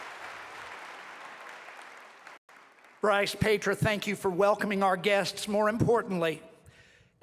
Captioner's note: cheering and applause